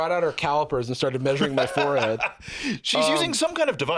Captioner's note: laughs